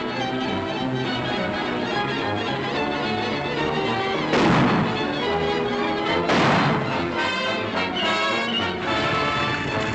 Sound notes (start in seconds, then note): 0.1 tense music; 4.1 gunshots